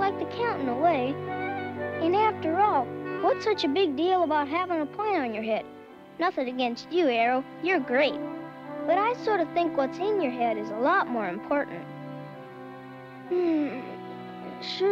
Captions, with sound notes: And after all, what's such a big deal about having a point on your head? Nothin' against you, Arrow. You're great. But I sort of think what's in your head is a lot more important. (yawns) Sure gets dark, fast.